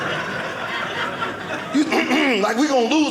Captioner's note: clears throat